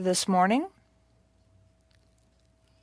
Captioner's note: speaking French